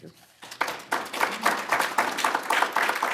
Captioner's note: applause